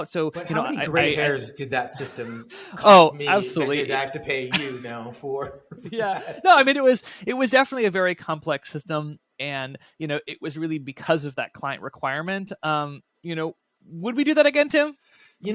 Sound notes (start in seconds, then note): 5.3 laughing